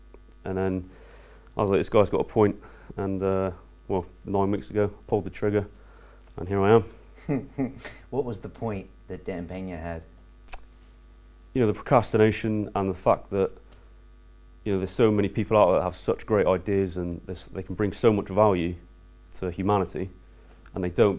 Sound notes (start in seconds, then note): 7.1 laughter